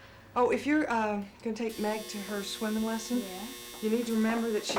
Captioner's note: buzzing